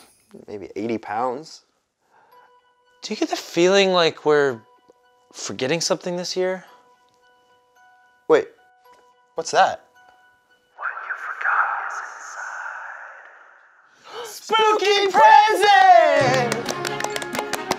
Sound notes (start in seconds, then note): 10.8 a mystical voice speaks from the shadows; 15.0 both gasp and start clapping